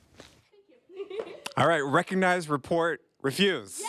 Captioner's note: laughter